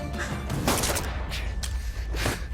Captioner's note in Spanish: Disparo